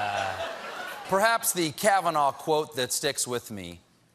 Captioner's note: laughter